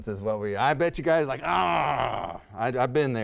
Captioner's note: groans